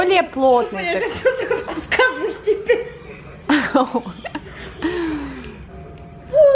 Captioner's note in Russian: смех